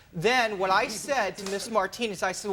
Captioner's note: people laughing